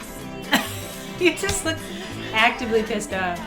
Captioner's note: laughs